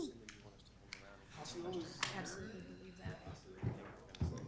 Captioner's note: people murmuring